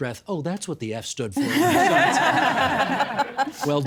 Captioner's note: everyone laughing